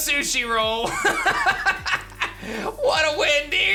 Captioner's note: laughs